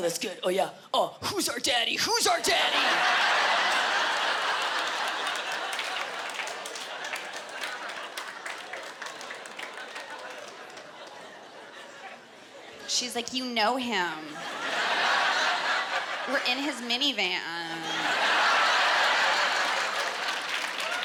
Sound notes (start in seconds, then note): 2.5 laughter